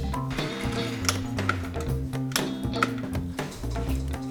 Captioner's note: metal snapping